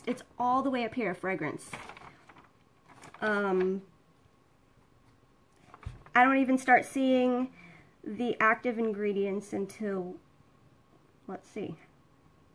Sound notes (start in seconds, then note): 2.8 paper rustling